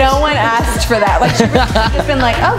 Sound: laughs

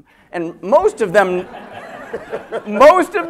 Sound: laughter

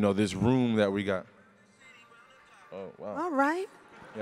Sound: ringtone

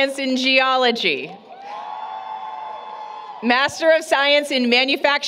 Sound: applause, Cheering

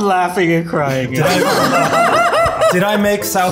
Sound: laughs

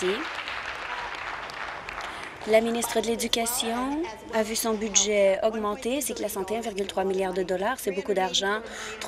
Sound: applause

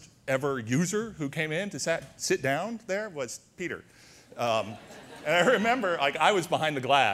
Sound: audience laughter

